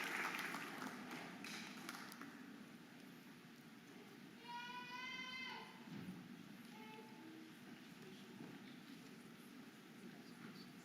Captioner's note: audience applauding and cheering